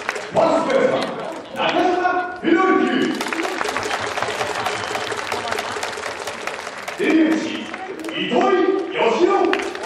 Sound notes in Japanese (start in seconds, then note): 3.0 拍手